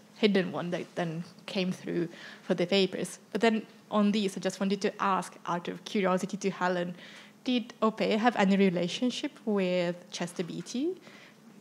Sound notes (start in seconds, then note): none